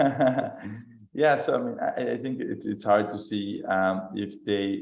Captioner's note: laughter